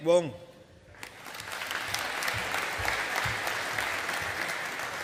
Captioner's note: audience applauding